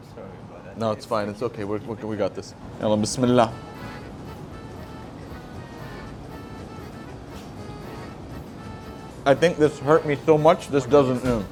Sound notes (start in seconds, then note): 3.5 speaks Arabic